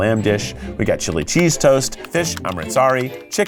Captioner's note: graphics clicking